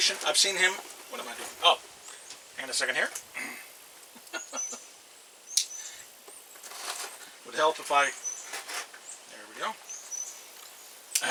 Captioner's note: laughs